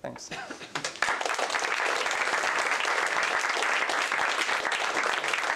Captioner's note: applause